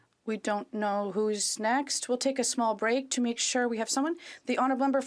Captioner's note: speaking French